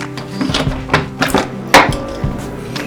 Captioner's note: door opens